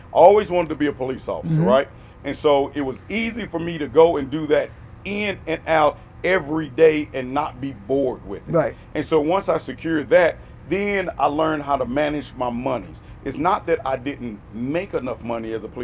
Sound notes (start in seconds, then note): none